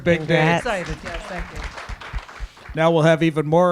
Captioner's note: audience applauding